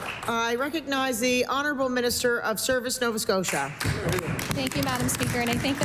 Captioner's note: applause